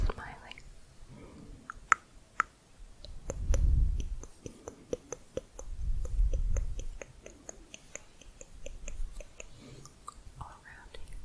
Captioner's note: lower pitched clicking